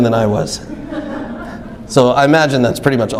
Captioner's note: audience laughs